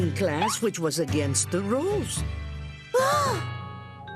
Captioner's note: both gasp